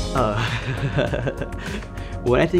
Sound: laughing

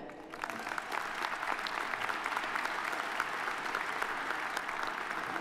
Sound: audience applauding

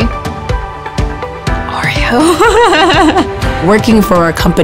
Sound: laughing

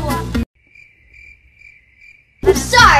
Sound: crickets chirping

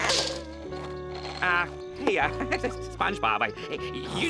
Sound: laughing

